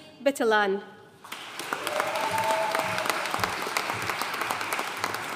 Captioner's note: audience cheering and applauding